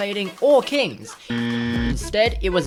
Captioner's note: wrong buzzer